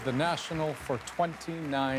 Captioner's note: applause